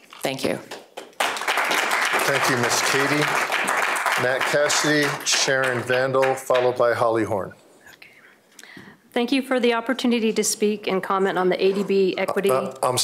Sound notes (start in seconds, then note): 4.5 applause